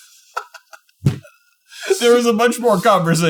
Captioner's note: chuckling